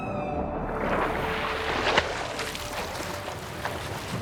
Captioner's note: splashing